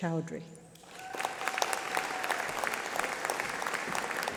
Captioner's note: applause